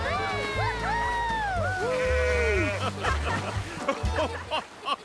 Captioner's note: laughing and cheering; whooping; laughing